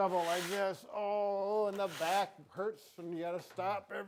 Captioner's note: shovel scraping